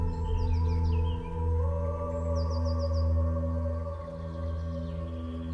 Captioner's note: birds chirping